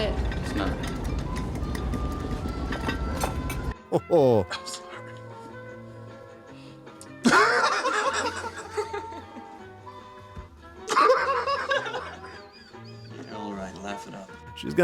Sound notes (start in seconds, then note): 10.8 laughs